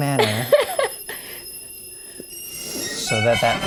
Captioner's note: high pitch ringing